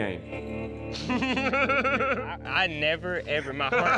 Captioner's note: laughter